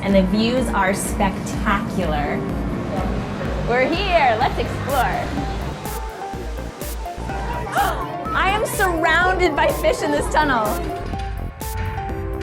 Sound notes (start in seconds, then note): 5.4 upbeat keyboard music; 7.6 gasps